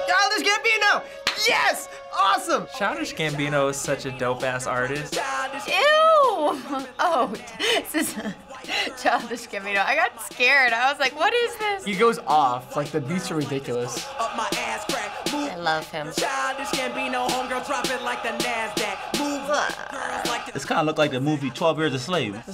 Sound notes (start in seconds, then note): 0.0 dramatic choir singing; 6.3 chuckling; 19.4 groans in disgust